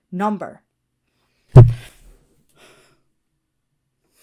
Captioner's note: microphone peaks